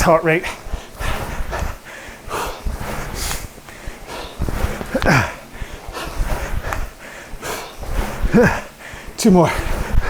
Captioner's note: breathing heavily